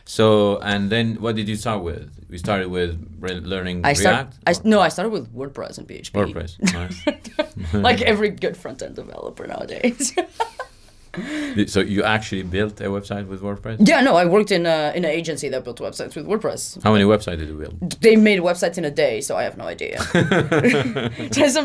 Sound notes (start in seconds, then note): 7.1 laughing; 10.1 laughing; 20.0 laughing